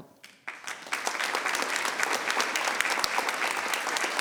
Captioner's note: members clapping